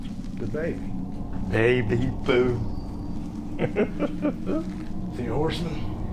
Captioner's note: evil giggle